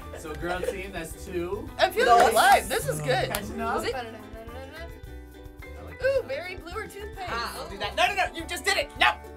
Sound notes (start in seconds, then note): 4.1 vocalizes